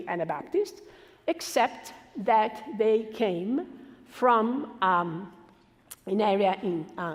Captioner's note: foreign language